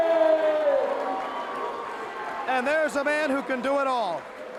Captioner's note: crowd cheering